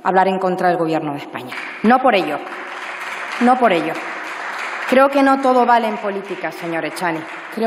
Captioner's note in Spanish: Aplausos